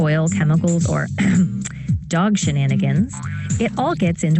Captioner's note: throat clearing